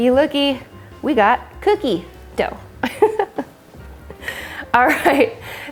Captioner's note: laughs